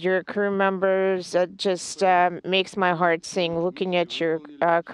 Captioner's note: speaking in native tongue